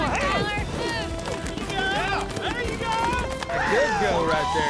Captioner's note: all shouting